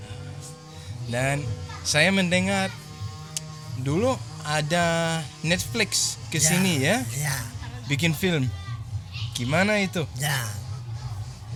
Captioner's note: Speaking in Bahasa